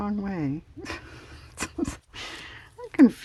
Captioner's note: laughs